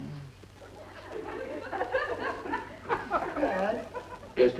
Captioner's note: audience laughing